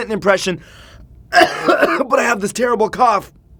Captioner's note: coughing